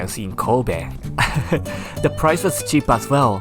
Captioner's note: chuckles